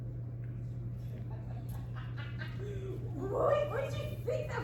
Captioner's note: Spring Bonnie laughs